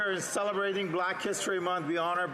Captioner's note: some Applause